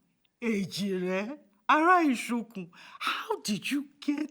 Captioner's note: speaking in Yoruba